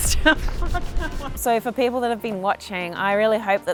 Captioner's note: laughs